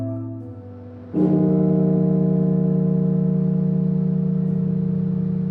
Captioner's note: bell tolling; somber music